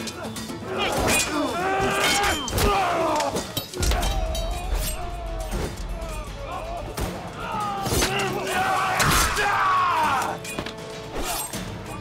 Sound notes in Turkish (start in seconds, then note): 6.8 Kılıç sesleri